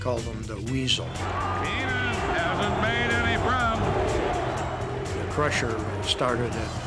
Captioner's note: crowd chattering drowns out announcer speaking